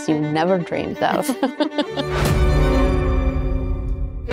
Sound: giggling; violin music

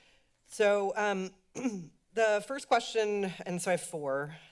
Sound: clears throat

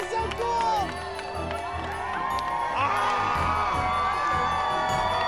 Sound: cheers and applause continue

